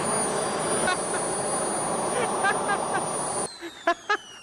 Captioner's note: laughing